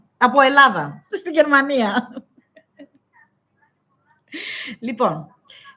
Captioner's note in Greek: γέλια